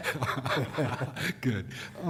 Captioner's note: laughter